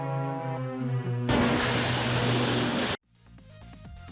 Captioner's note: crash